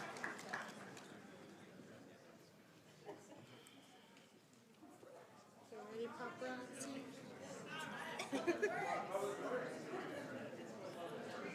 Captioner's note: applause